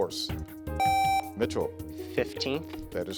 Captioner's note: contestant beeping